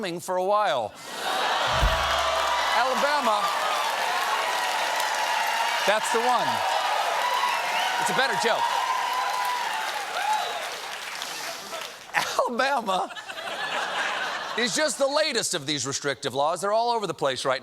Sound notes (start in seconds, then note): 5.8 cheers and applause